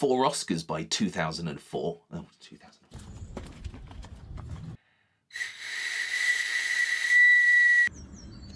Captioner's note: sheep whistle